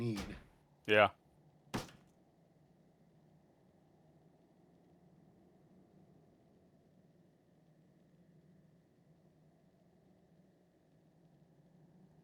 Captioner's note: door slams